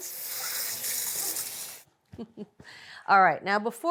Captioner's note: water whooshing